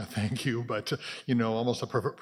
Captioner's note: chuckles